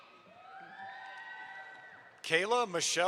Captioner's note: audience applauds